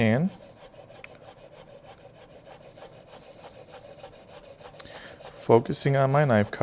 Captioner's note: knife slicing